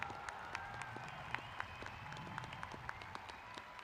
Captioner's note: applauding